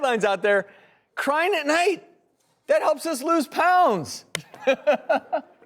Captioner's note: laughs